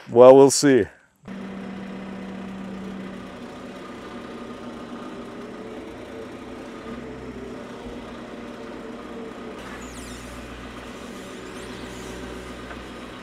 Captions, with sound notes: Well, we'll see. (engine revving) (engine revving)